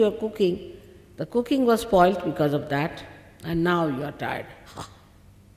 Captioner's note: shri mataji exhales - ha